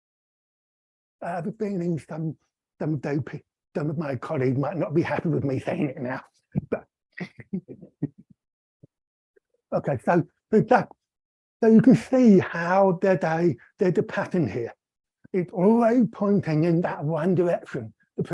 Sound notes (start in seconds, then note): 7.2 chuckling